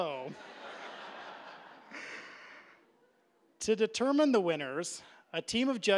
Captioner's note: audience laughing